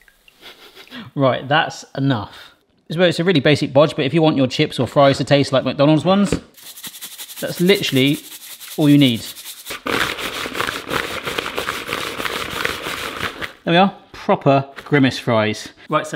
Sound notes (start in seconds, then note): 0.0 fries sizzling; 0.4 laughs; 6.5 salt rustling; 9.6 fries rattling